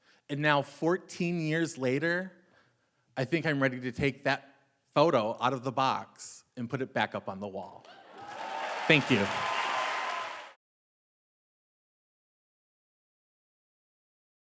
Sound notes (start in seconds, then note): 7.9 audience clapping; 9.9 audience cheering